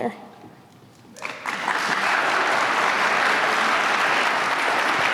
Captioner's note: applause